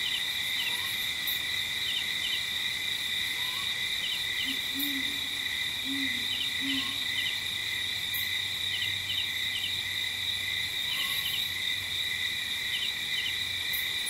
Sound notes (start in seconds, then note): 2.4 crickets chirping; 4.5 light jungle ambience